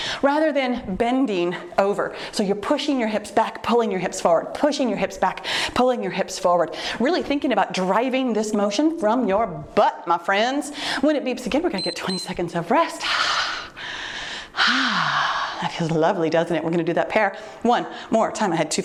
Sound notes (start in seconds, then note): 11.7 timer beeps; 13.8 exhales sharply